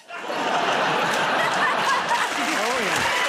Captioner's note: laughter